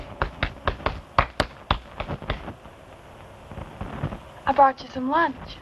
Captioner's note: clapping